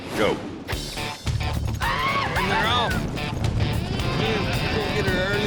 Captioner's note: hoofbeats, shouting